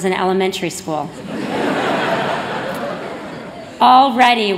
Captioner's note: laughter